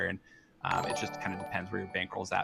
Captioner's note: chiming